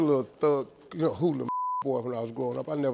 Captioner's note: beep